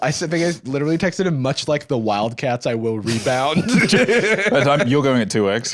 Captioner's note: laughs